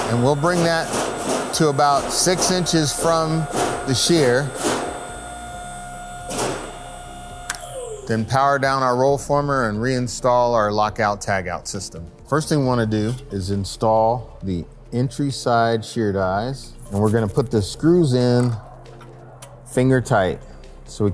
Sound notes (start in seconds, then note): 4.7 machine whirring; 6.3 metal sheet clanging; 7.2 switch clicks